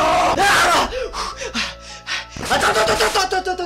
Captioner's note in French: halète